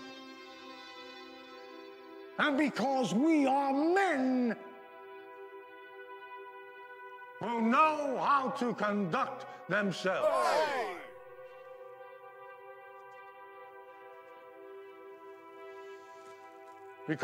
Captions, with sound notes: And because we are men who know how to conduct themselves. - [Crowd] (cheering)